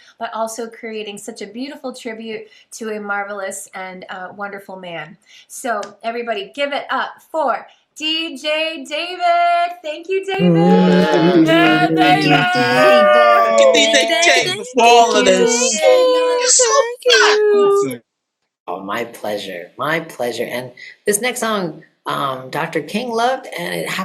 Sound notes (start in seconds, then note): 13.6 applause